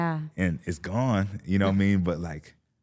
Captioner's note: Stephanie chuckling